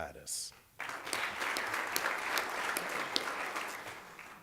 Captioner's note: applause